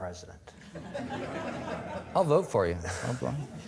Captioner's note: audience laughing